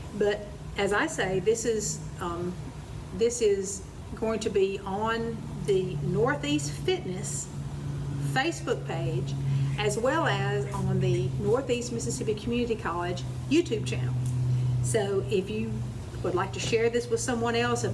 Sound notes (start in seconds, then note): none